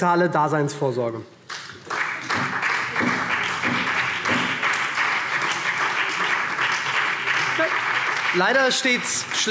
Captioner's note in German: Beifall SPD